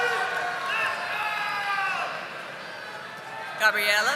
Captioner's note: audience applauding